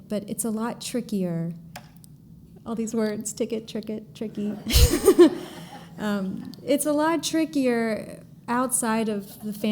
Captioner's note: laughter